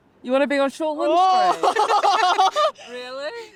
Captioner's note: laughing